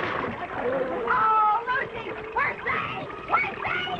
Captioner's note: drain gurgling